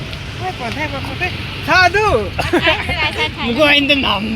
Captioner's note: laughter